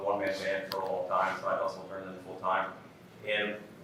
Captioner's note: faintly speaking